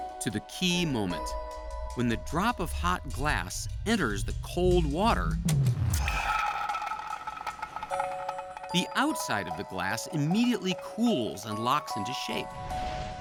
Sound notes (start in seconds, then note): 5.9 molten glass bubbling